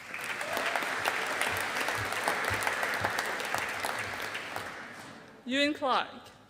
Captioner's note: audience applauding